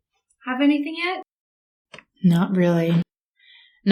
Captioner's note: none